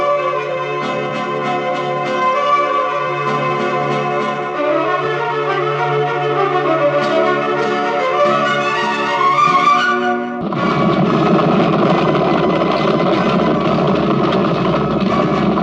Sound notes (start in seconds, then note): 10.4 hooves clopping